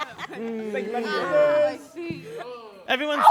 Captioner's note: chatter and laughter